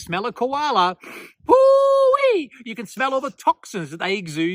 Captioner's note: sniffs and whoops